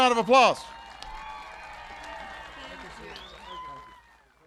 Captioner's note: applause